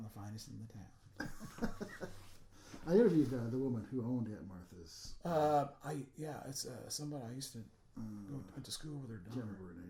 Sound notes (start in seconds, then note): 1.2 laughing